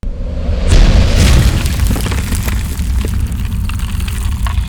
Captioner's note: ground crumbling